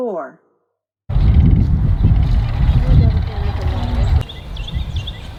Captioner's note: birds singing